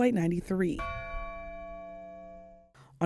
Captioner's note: bell ringing